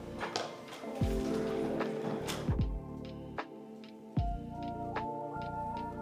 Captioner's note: sounding gavel